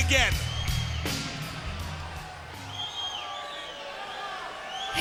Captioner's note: crowd murmuring